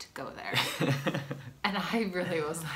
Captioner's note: laughs